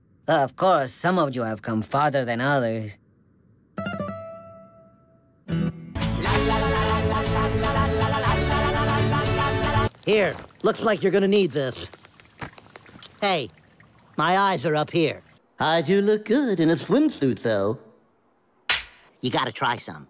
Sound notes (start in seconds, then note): 18.7 s l a p